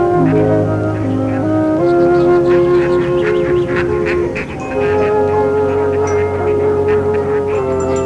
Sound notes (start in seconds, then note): 0.0 soft music; 0.0 ducks quacking